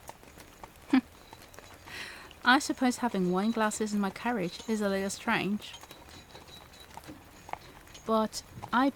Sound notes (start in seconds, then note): 0.8 laughs